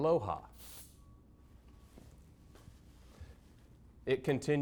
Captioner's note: can spraying